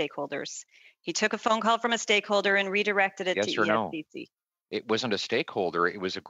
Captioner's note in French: voix de l'interprète